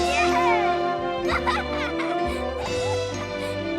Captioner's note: laughing